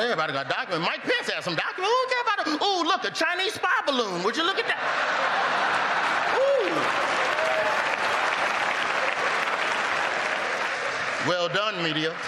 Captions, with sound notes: AND THEN, WE FOUND OUT JOE BIDEN HAD DOCUMENTS, TOO, AND IT WAS LIKE, OH, IT'S NOT A BIG DEAL. [LAUGHTER] SO, I GOT NO DOCUMENTS. MIKE PENCE HAD SOME DOCUMENTS. OH, LOOK, A CHINESE SPY